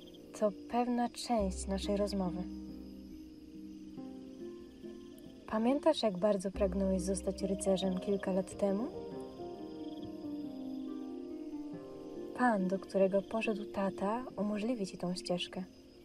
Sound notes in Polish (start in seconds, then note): none